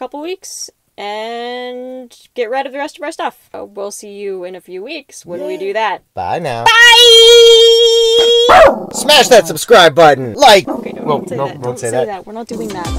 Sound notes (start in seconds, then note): 8.4 Thumper Barks